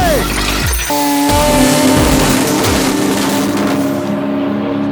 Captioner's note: engines roaring